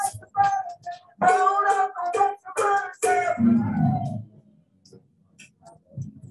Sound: protestors calling out

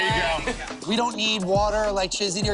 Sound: laughter

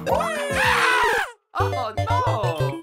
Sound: Mario screams

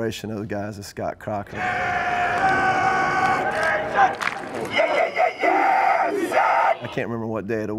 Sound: yelling

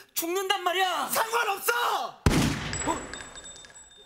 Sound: bang!

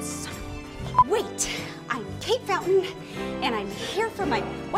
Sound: beeping

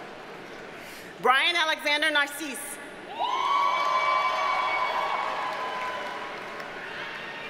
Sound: audience cheers and applauds

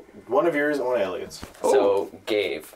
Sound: excited noise

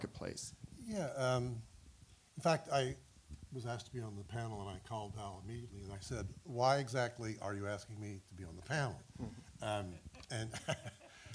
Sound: laughter

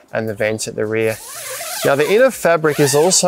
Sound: zipper pulls

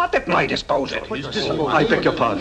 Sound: protests

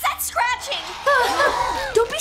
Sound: gasps

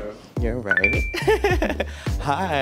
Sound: giggles

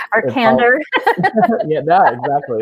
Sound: laughing

